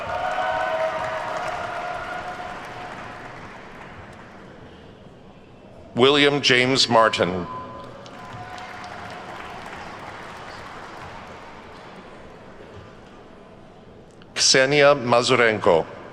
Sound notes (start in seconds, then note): 0.0 attendees whooping and clapping; 7.8 attendees clapping